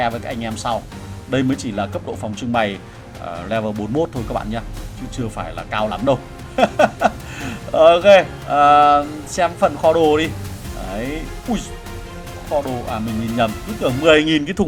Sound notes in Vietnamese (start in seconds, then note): 6.5 tiếng cười